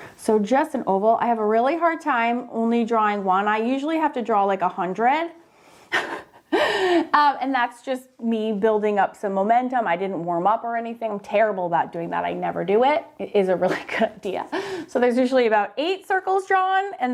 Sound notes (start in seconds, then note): 5.9 chuckles